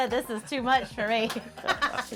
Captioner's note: laughter